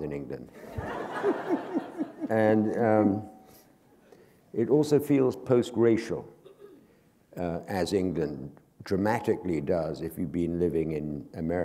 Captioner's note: laughter